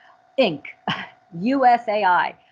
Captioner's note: chuckles